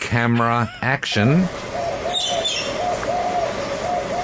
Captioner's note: bird sounds, the sounds of being out bush